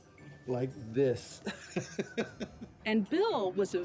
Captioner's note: laughs